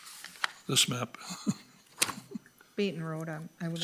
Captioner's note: laughing